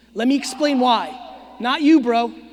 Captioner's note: audience member screaming